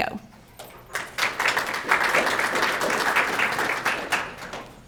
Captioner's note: crowd clapping